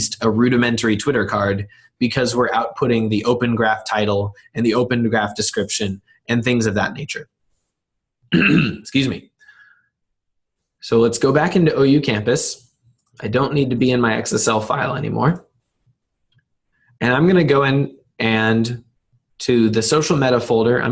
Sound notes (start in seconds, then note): 8.3 clearing throat